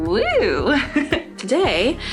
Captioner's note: laughs